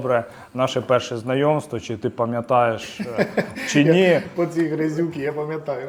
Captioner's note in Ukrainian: сміх